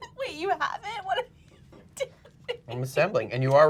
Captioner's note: laughs